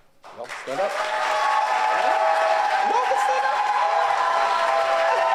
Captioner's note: audience cheers